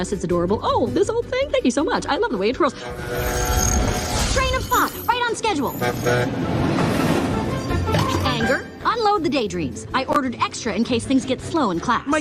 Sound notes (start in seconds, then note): 2.6 train horn blaring; 5.7 train horn honking; 5.9 rail rattling